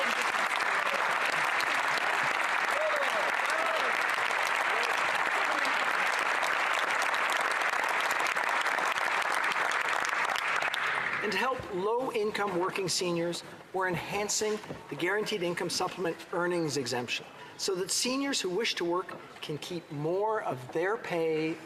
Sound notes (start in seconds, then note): 4.2 applause